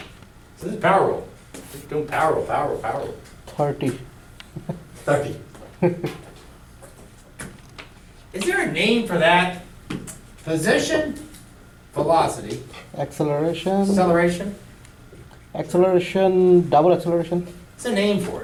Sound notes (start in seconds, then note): 4.5 voiceover; 5.6 laughs; 13.5 voiceover; 16.1 voiceover